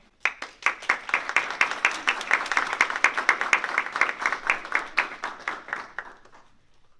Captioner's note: applause